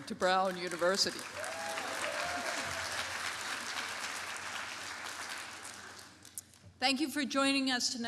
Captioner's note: applause